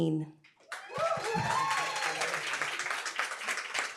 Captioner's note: applause, cheering